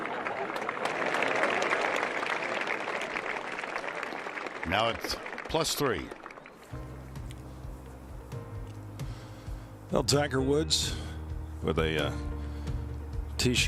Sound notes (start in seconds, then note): 5.7 applause